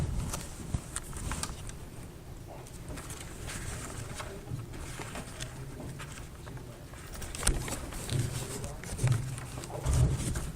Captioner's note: papers rustling